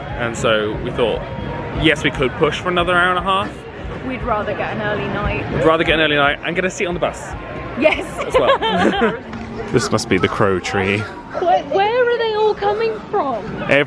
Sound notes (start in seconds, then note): 7.9 both laugh